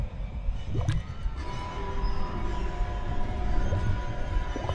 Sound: liquid bubbling

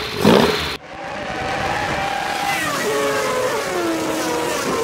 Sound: engine sound

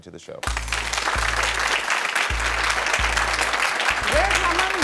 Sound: audience applauding

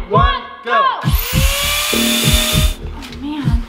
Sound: saw buzzing

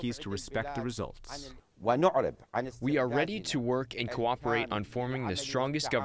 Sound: through translator

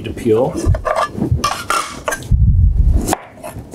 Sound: knife cutting

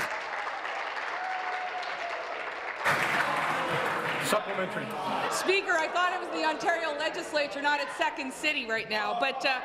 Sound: applause

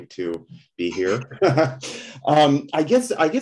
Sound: laughs

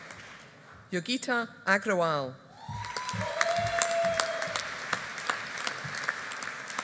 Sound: audience applauding

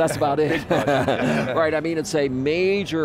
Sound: laughing

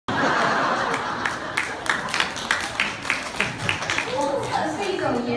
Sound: audience are laughing and applauding

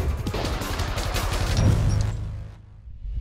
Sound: gunshot

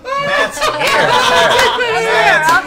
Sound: all laugh

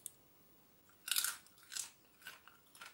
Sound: crunch!

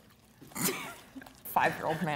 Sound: laughing

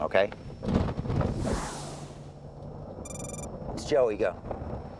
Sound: dramatic sound

